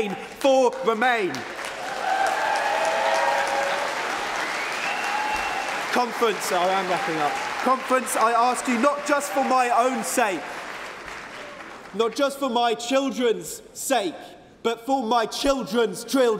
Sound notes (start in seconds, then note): 8.6 cheering & Applause